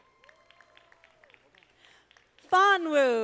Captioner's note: audience applauding